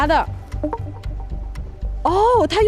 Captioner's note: Mr. Wu's phone, voice changer